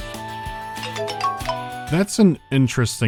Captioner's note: chippy tune playing; message notification